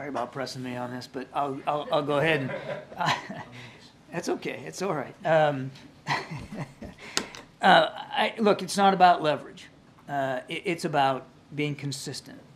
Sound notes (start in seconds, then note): 2.2 laughter; 6.0 laughs